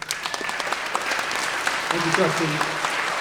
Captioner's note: everyone applauding